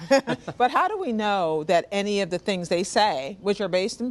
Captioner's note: laughter